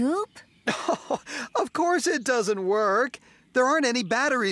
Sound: chuckling

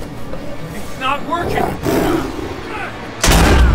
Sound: cheetah growls softly; cheetah growls; Bumblebee grunting

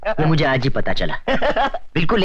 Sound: softly Laugh

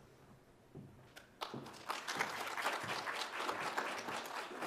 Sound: audience claps

